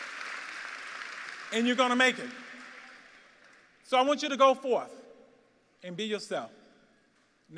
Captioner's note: applause